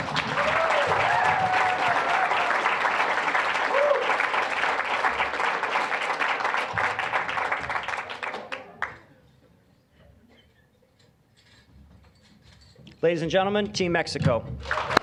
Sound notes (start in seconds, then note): 0.0 applause, cheering; 5.2 applause